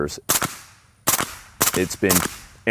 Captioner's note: gun shots